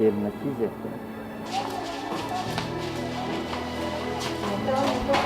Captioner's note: footsteps. Sounds of kids talking